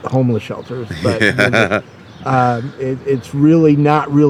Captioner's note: laughing